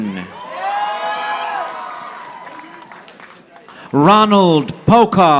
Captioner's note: audience applauding